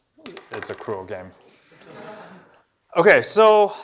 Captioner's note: laughter